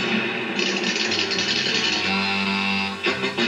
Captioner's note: boom; rattling